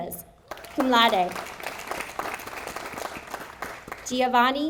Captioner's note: audience applauding